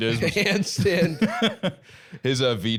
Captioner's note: laughing